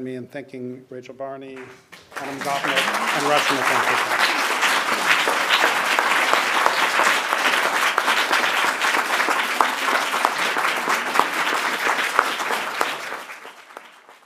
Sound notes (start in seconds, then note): 4.5 audience applauding